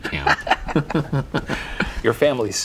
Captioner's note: both laughing